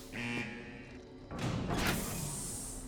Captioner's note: steam hisses; alarm buzzing; door clanks and hisses